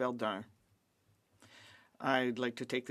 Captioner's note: speaking French